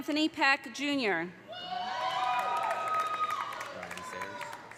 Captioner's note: audience cheering; audience applauding